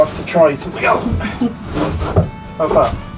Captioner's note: harumping can be heard in the background